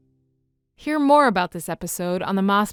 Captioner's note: voiceover